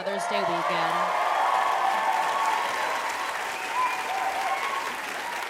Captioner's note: audience clapping and cheering